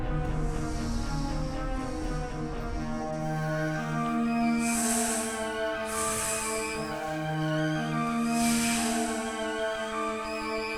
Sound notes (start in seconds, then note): 2.6 snake hissing; 7.9 dramatic music